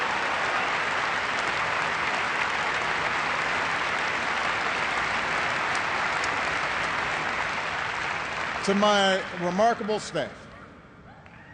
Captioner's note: cheers and applause